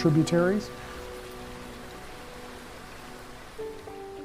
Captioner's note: water splashing